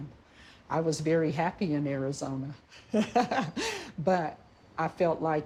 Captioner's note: laughs